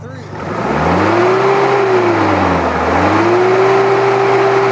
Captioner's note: revving continues